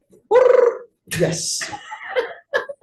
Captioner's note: trills tongue; group laughing